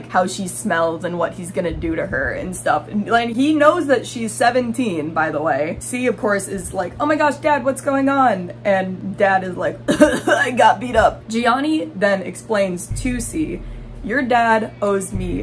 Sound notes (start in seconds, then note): 9.8 cough cough; 12.8 sinister music